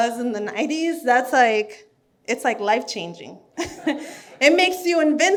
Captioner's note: laughs